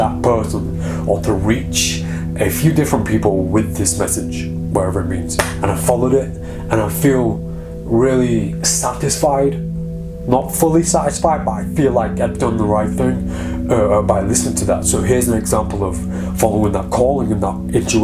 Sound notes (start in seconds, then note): 5.4 clapping